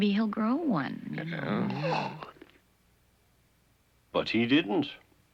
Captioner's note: yawning